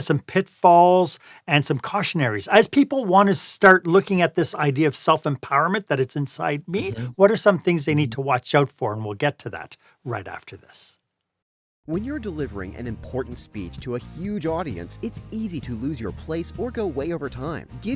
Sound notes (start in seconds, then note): 11.6 voiceover